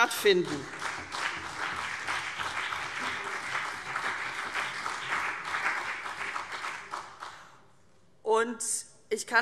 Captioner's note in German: Beifall CDU und BÜNDNIS 90/DIE GRÜNEN